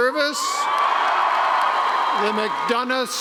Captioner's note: cheering